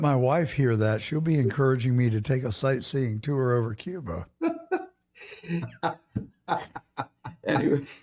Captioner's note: laughing